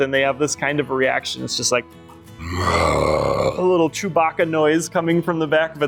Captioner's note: growl